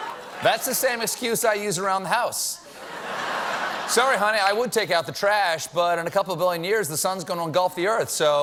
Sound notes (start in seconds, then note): 2.6 laughter